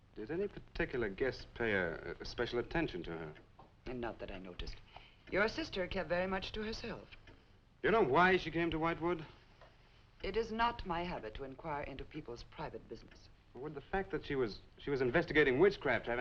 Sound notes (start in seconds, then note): none